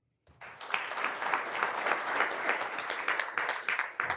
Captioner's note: all applauding